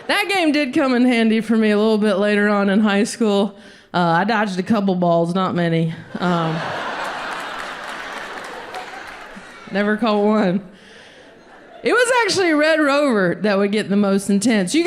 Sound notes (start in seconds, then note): 6.1 audience laughs